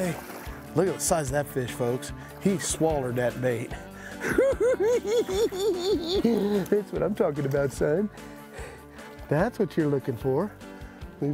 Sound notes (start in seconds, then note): 3.7 cackling